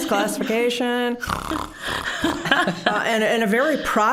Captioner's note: snoring noises